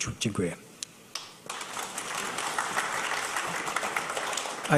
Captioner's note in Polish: oklaski